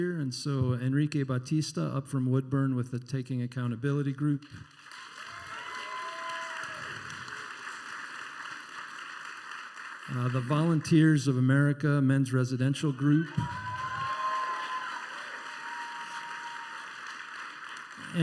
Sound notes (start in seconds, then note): 4.6 applause and cheering; 12.9 applause and cheering